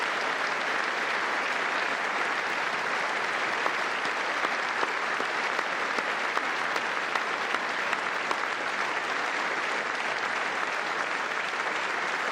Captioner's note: cheers and applause